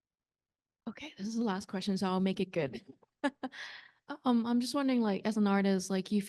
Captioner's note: laughs